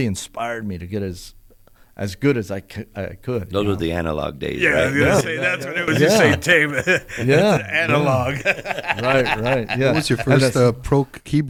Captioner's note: chatter & laughter